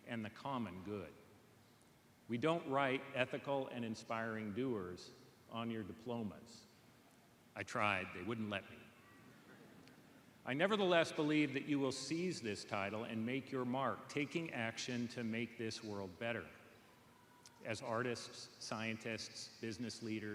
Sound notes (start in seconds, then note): none